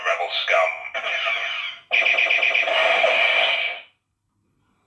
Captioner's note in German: Laser Cannon Sounds